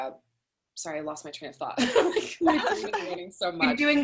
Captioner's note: laughs